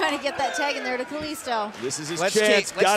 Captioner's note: fans chanting